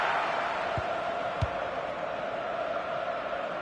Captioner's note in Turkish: coşkulu tezahürat